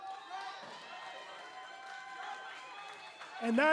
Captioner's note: cheers and applause